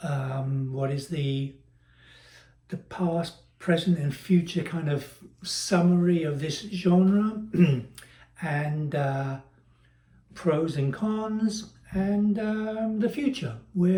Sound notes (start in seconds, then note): 7.5 cough